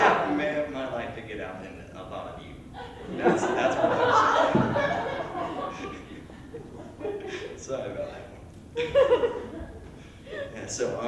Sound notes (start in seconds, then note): 2.7 laughter; 5.5 laughs; 8.7 laughter